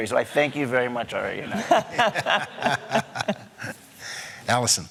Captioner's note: laughter